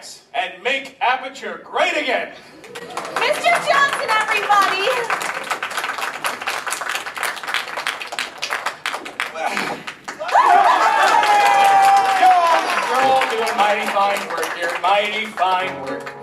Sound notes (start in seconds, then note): 4.9 scientists applauding; 8.1 applause dies down; 10.2 enthusiastic applause